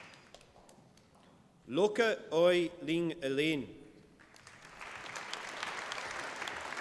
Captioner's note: applause